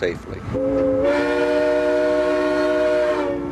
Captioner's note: train whistles